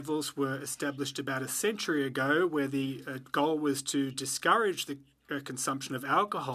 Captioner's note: speaking French